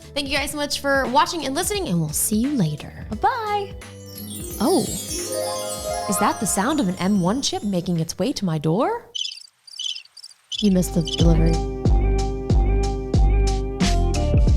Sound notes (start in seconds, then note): 9.7 wheel squeaking; 10.6 upbeat music